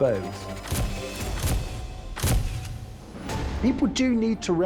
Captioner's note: camera lenses snapping